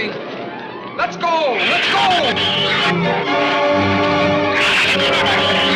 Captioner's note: shrews screech